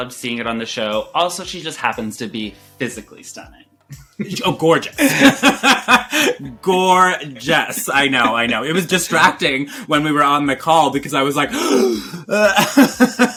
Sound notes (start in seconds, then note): 11.5 gasps